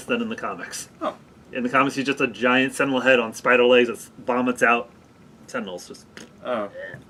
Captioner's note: squelch sound